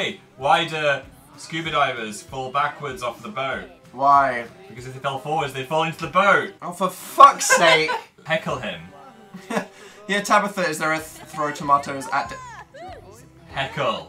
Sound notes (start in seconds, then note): 4.0 flatly; 7.2 laughs; 9.1 chuckles